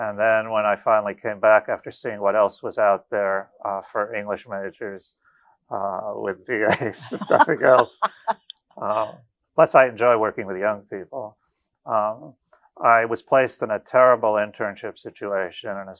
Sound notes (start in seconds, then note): 5.7 chuckles; 6.6 laughs